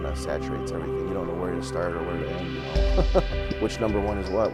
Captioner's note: laughs